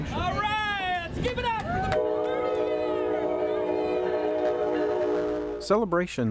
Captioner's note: train horn and applause